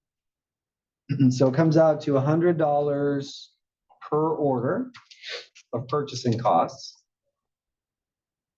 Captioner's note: cough